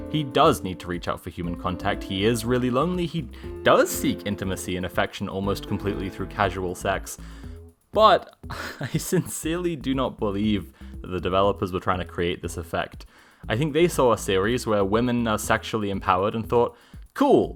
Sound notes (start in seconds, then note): 8.5 laughter